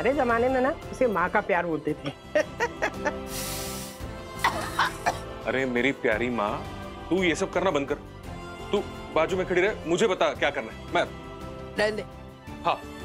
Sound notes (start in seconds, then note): 2.3 chuckling; 4.3 coughing